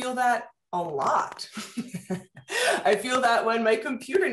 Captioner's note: laughter